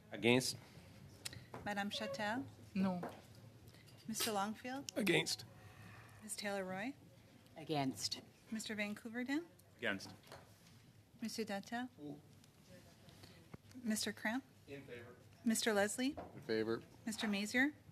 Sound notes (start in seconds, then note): 1.0 conversation din